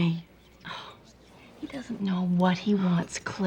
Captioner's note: scoffs